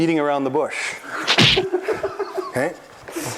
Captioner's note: whack!